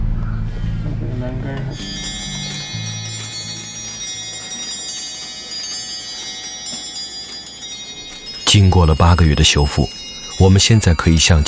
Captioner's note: music clock ringing